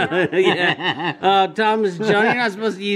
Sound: laughing

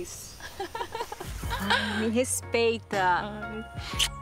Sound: chuckles

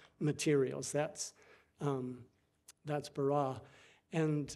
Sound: speaking foreign language

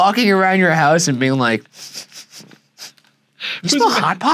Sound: sniffs

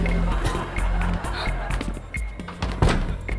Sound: gasping

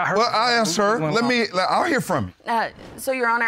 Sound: judge stammers

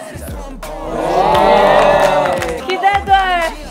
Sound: heart pounding

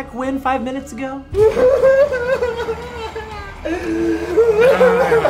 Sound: sobs

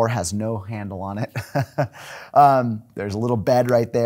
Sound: laughing

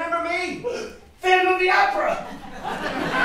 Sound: gasps; audience laughs

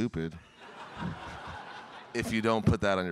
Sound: audience laughing

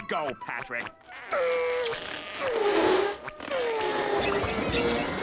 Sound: grunting

